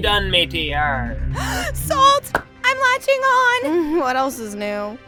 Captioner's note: gasps